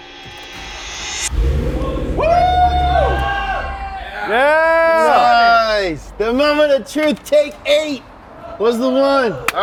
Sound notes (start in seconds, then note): 0.1 car engine cuts on; 2.2 yelling exciredly